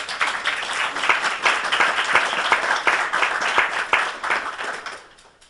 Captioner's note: audience applauds